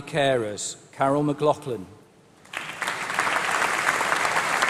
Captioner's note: applause